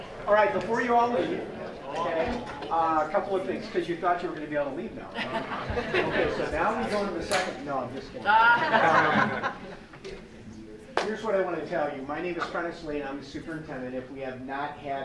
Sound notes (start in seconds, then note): 5.1 laughing; 8.3 laughter